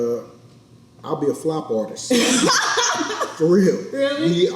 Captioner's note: all laugh